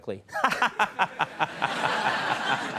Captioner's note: Conan laughs; audience laughs